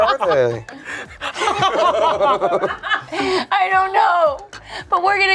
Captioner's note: group laughs